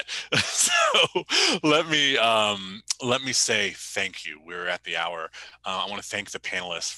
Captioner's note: chuckles